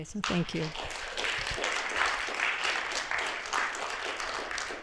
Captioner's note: applause